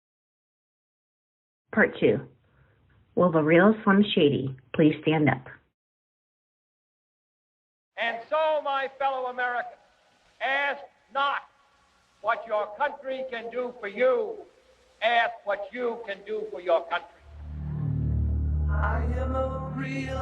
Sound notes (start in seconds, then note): 2.2 soundbite of archived recording; 20.0 soundbite of archived recording